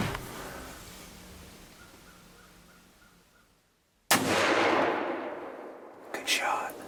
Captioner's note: whispering